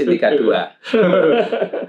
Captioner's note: laughs